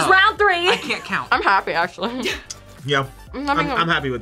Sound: laughs

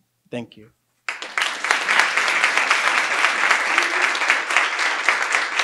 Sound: audience applauding

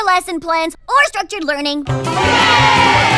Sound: cheering

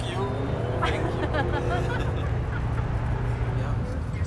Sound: laughing

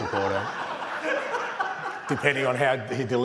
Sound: laughter

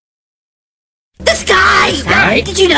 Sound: crowd

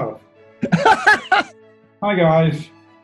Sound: laughing

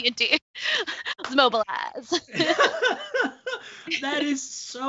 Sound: both laughing

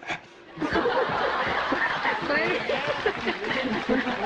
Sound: audience laughing; audience applauding

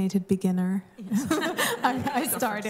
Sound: laughter

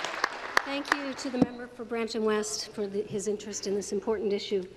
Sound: applause

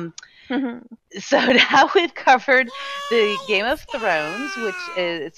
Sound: laughing

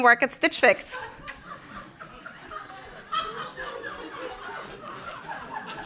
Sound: laughter

